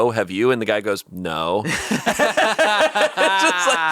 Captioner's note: all laughing